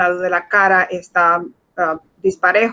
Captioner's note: speaking in Foreign Language